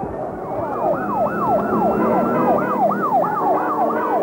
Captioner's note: siren sounds